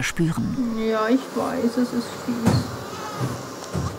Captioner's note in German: Leises Greinen